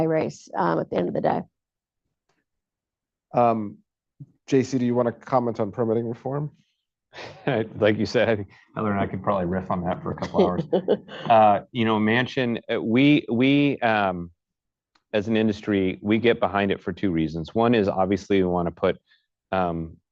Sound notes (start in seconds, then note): 7.2 laughs; 10.0 laughter